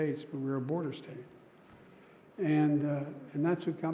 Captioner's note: none